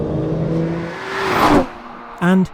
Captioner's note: car zooming